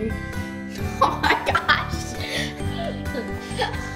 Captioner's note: laughter